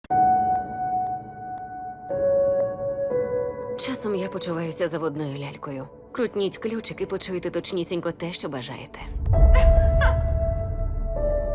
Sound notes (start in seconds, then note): 0.0 piano gently playing; 9.6 laughs